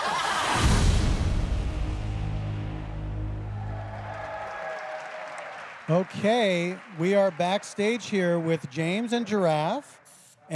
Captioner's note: laughter; applause